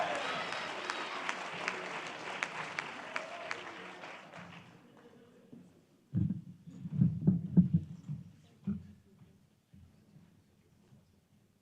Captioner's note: applause